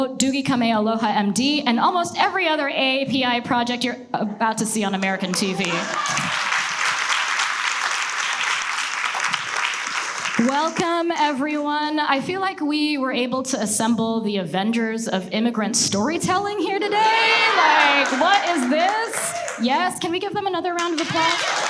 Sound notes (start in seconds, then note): 5.0 audience laughs and applauds; 16.9 audience laughs; 20.8 audience cheers and applauds